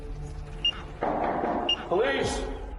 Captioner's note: knocking